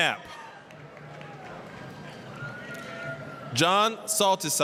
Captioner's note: applause, cheering